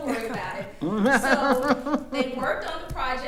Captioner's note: attendees laughing